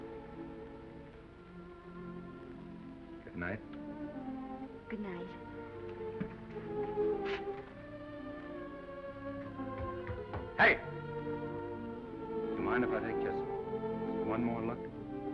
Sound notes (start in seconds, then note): 5.8 footsteps receding; 5.9 gentle music; 15.1 gentle music